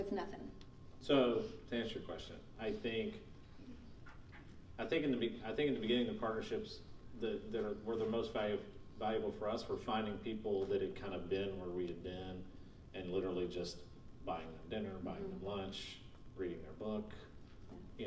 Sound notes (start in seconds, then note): none